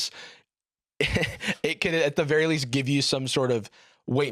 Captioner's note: laughs